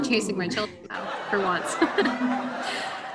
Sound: laughs

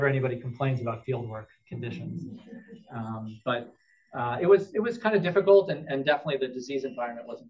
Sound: laughter

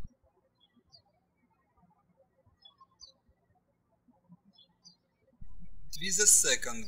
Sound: birds chirping

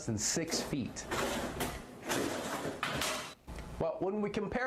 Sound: banging

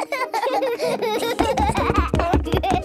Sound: both laughing

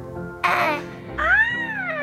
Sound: moans; giggles

